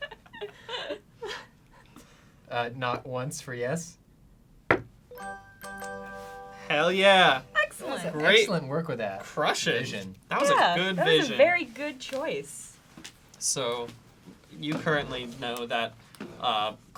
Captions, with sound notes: (laughing) Knock once for yes. (knocks once) (chiming) - Hell yeah! - Excellent! - Excellent work with that. Crush it. That was a good vision. - That was a very good choice. - So, you currently know that,